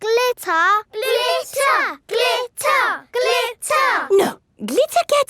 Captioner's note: chanting